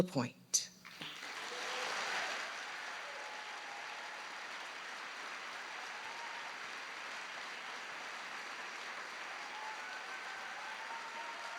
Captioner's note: applause